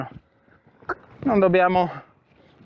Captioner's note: cluck